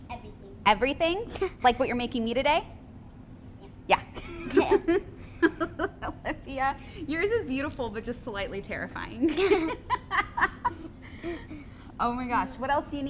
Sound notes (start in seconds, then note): 5.4 laughs; 9.3 both laugh